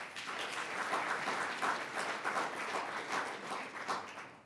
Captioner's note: audience applauds